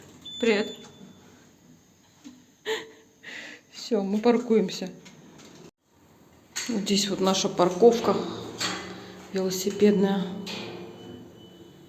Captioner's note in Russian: тяжело вздыхает